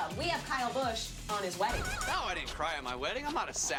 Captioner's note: laughter